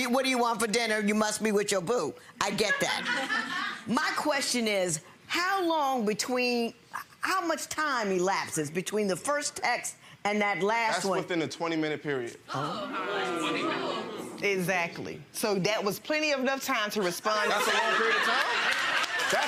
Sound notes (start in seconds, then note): 2.5 audience laughing; 12.6 audience muttering